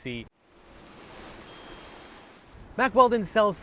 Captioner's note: waves crashing